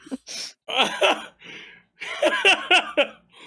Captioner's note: laughs